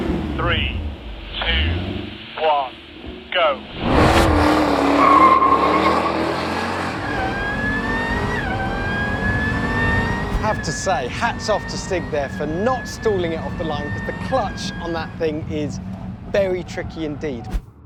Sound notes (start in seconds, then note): 5.2 engine roars powerfully